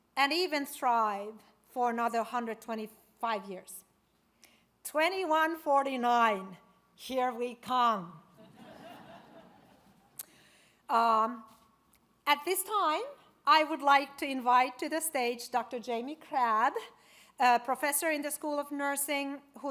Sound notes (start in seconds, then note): 8.4 audience laughs